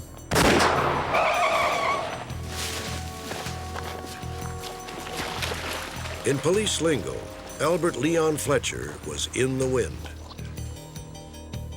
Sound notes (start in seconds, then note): 0.3 gunshot; 0.9 car screeching